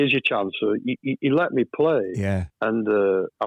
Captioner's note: laughs